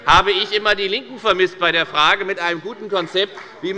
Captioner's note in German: Beifall bei der FDP